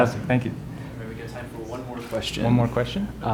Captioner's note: voiceover